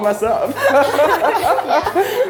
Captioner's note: laughing